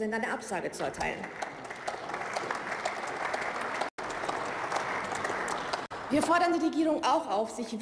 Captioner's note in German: Beifall